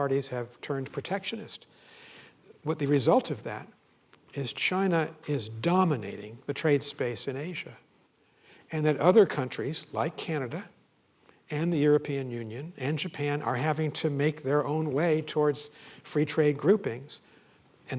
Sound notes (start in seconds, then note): none